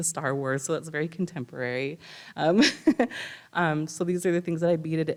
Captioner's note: chuckles